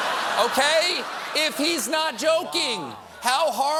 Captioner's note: laughter